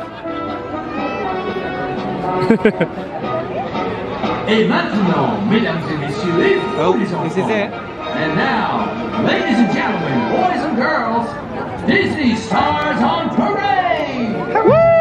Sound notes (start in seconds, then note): 0.8 upbeat music; 5.0 announcer speaks in French